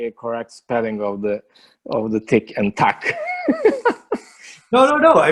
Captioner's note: laughs